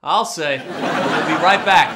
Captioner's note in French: rires